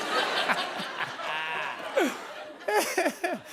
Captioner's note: laughs